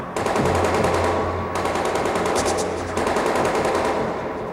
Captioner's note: guns firing